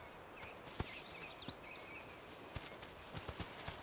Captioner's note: birds twittering